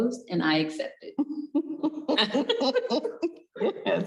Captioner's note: both laughing